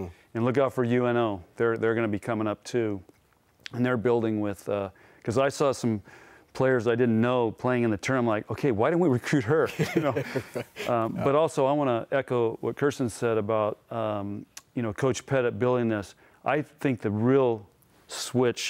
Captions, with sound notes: and look out for UNO, they're gonna be coming up too. And they're building with, 'cause I saw some players I didn't know, playing in the term like, okay, why didn't we recruit her? (laughter) But also I wanna echo what Kirsten said about, Coach Pettit building us, I think the real switch